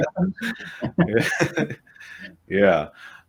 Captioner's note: chuckles